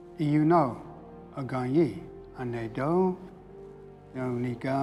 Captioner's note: speaking Cherokee